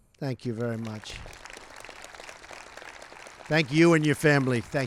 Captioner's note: applause